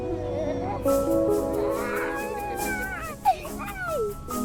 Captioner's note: kids exclaim